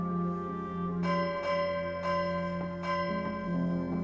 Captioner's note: gong berbunyi